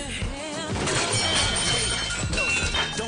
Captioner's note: metal falling